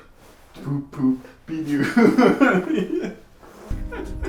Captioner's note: laughs